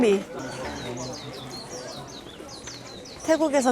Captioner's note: chirp chirp chirp